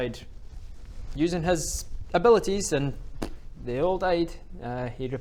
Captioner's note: pfft